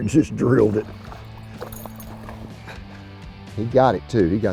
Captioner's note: water rippling